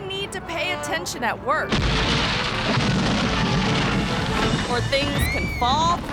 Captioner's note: concrete rumbling